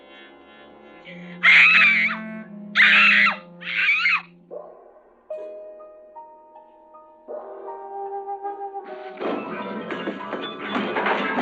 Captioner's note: screaming